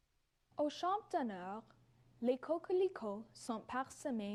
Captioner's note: speaks French